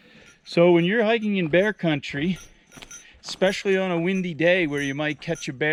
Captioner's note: bells jingling